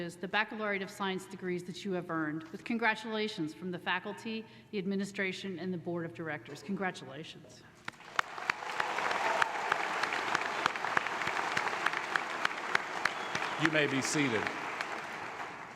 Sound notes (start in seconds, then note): 7.9 applause